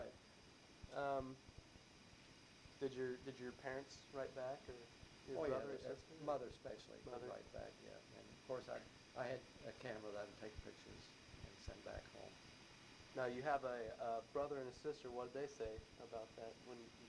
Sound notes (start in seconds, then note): none